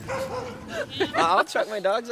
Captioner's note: dogs barking